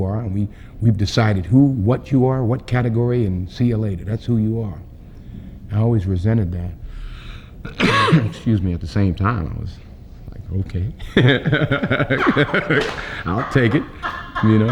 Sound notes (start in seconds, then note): 7.6 coughs; 11.0 laughs